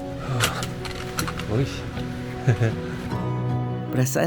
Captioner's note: giggle